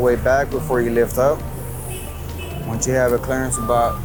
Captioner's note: machine horn beeps